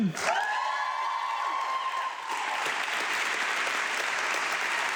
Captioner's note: audience clapping